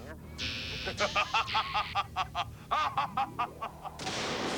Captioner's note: Vile laughs sinisterly